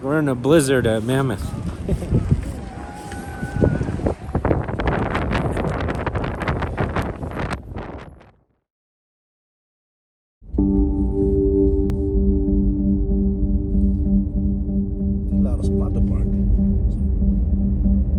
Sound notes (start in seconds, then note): 1.7 giggles; 3.1 wind howls; 10.5 gentle music